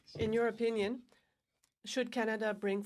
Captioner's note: speaking in french